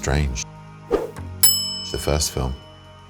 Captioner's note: bell dings